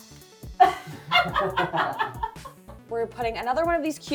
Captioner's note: laughing